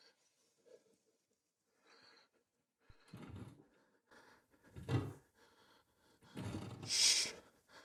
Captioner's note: heavy breathing